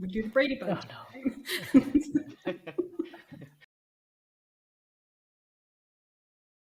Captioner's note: everyone laughs